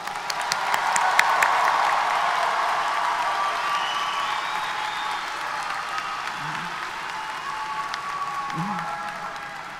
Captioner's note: applause & Cheers